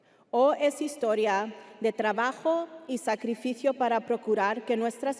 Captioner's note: speaking Spanish continues